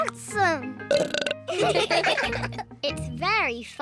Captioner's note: burps; all laugh